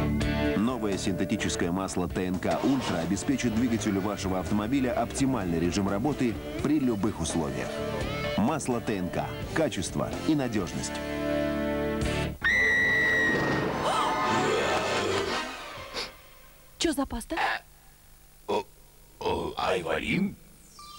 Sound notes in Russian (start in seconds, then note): 12.3 нюхает; 12.4 крик